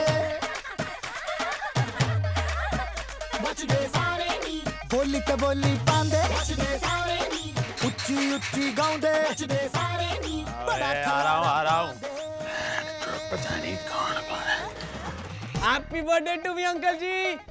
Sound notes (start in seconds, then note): 7.1 clanking